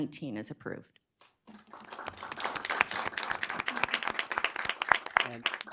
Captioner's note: applause